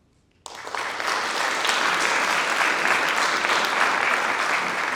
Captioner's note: audience applauding